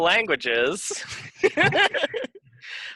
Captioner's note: laughing